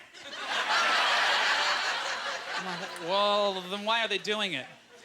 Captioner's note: audience laughter